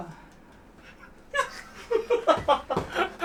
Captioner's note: laughs